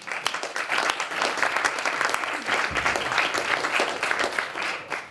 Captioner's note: applause